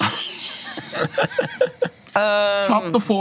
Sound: laughs

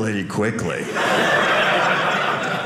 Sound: audience laughing

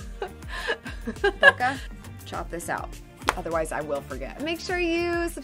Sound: chuckles

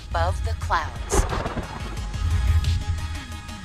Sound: electronic music; thunder blasting

